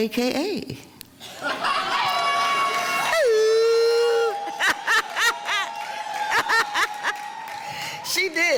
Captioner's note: laughing